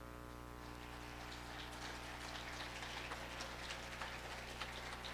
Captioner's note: audience applauding